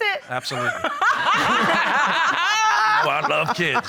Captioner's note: laughter